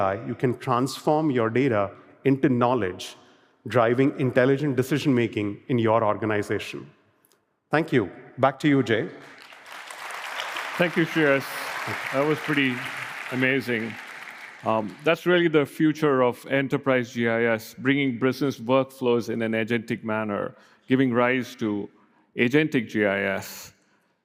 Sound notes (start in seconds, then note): 9.1 applause